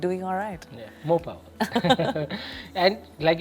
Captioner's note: laughs